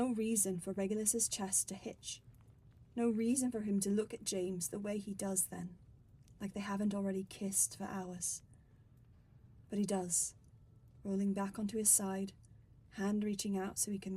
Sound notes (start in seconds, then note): none